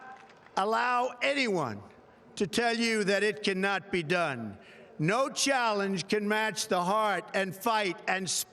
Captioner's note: applause